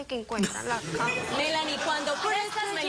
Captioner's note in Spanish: risas